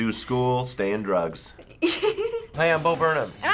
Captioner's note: giggling